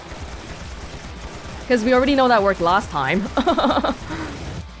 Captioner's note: chuckles